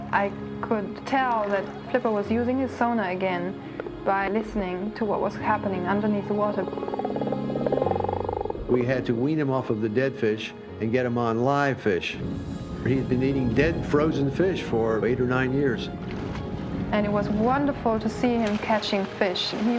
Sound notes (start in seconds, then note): 6.2 dolphin clicking